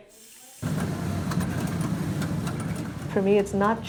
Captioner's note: weaving machine humming and clattering